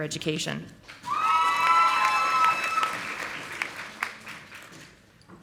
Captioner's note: audience applauding